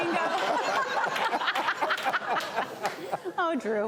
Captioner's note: laughter